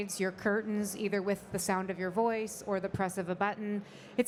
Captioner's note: none